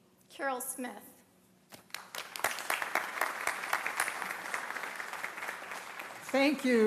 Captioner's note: applause